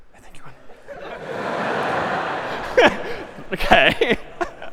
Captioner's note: خنده